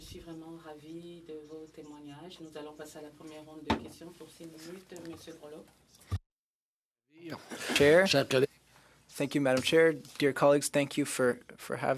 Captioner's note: speaking French